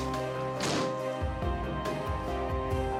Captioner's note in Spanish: portazo